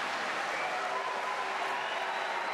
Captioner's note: applause